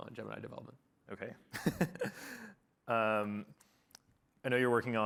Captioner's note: laughing